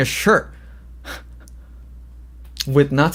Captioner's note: laughs